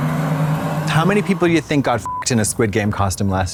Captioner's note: beep